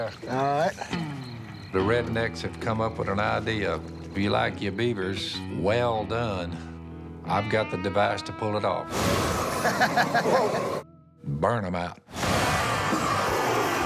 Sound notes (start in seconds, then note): 9.0 chuckles